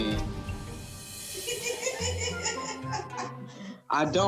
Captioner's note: laughs